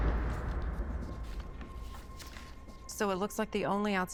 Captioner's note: tense electronic music; papers rustling